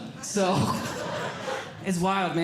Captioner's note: audience Laughing